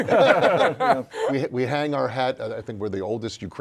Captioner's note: laughter